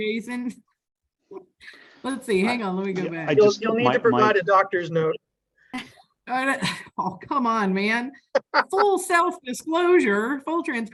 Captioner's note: laughing